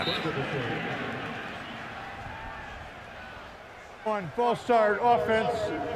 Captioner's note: pa announcement